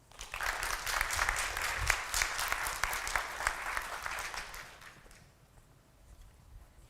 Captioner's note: applause